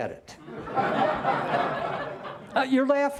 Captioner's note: laughter